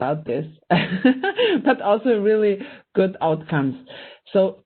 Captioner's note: laughing